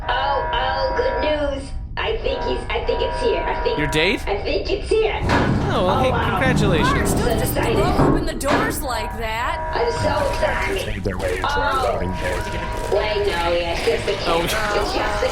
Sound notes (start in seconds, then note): 0.2 alarm blaring in the background; 10.0 sound of marching feet again